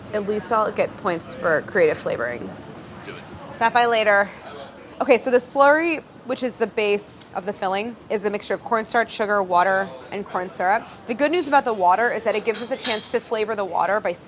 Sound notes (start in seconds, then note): none